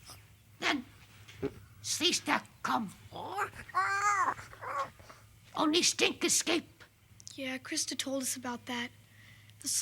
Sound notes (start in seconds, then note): 3.7 Tasha babbles